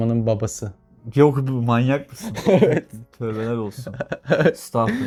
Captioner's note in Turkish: kahkaha